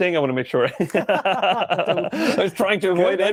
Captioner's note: both laugh